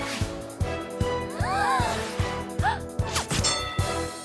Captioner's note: gasps; all gasp; bell dings